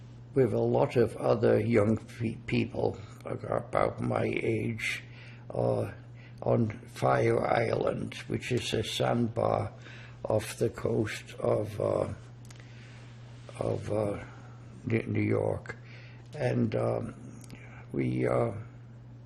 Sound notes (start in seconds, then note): none